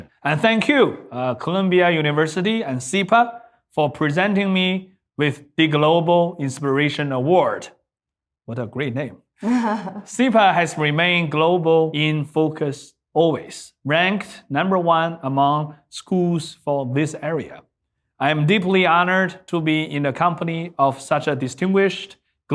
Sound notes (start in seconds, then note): 9.4 laughing